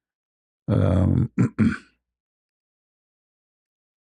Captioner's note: berdehem